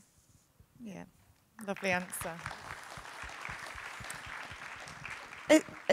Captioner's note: audience applauding